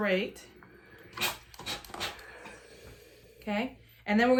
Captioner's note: steamer hissing